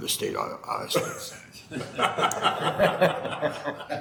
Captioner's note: laughing